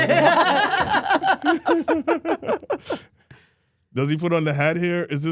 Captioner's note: all laughing